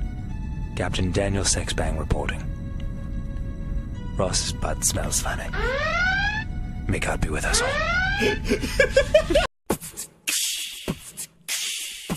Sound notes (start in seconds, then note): 5.5 alarm; 8.2 laughing